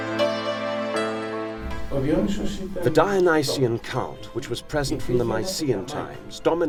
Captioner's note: man speaking Greek